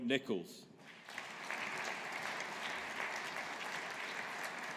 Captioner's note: audience applauding